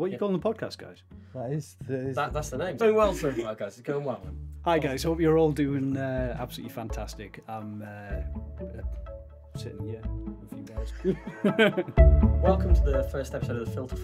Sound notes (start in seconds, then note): 10.9 laughing